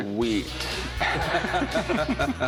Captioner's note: laughter